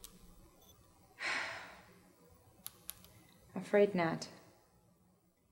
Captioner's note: sighs